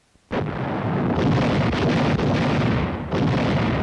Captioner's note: canons firing